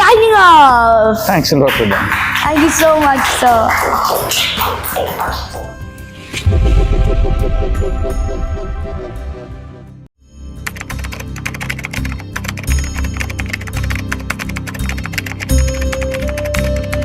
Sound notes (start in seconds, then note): 1.4 claps; 2.4 laugh